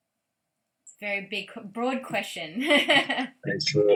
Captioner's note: laughing